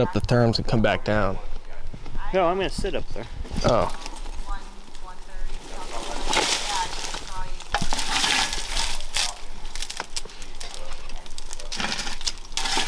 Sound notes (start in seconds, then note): 6.5 all chatting; 6.5 equipment rattling